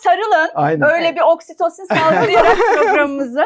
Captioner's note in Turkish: kahkaha